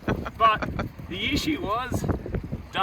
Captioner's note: laughs